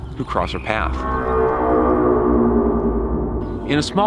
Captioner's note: ominous wailing